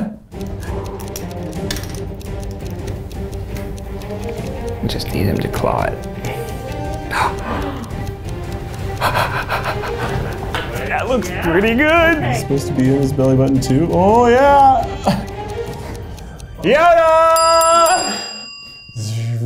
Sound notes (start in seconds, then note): 0.2 clock ticking; 0.2 tense music; 6.7 gasping; 17.2 bell dinging